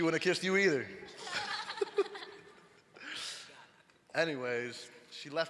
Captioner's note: all laughing